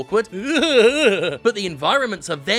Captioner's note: groaning